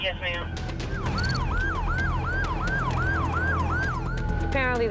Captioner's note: tense music plays; siren wails